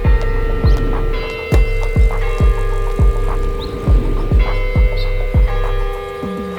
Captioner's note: upbeat music; clock tower bell ringing